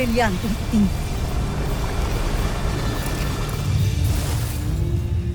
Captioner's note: powerful whoosh-crackle